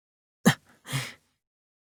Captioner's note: silence